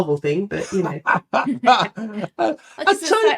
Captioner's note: both laughing